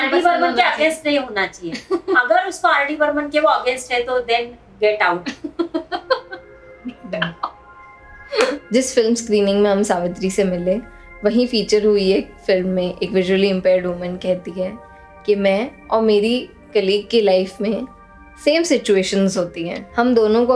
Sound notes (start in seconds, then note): 5.2 laughs